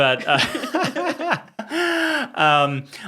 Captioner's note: both laughing